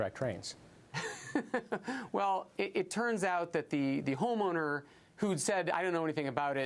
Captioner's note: laughter